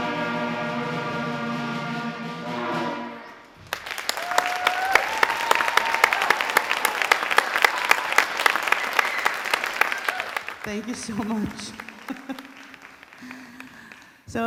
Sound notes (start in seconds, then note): 4.0 audience applauding and cheering; 11.6 chuckles